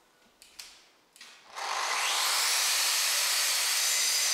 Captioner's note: loud sanding howls